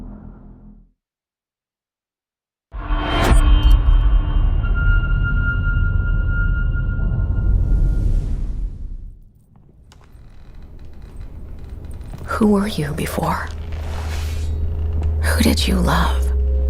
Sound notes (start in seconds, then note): 2.8 dramatic sound; 9.3 creaking